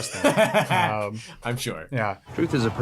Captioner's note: laughs